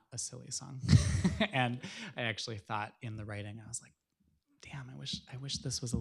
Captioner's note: chuckling